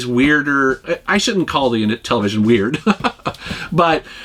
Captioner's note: laughs